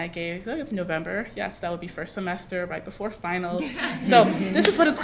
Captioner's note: laughter